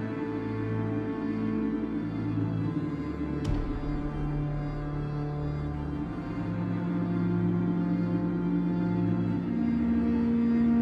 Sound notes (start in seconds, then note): 3.5 gunshot blasting; 5.0 tense orchestral music continues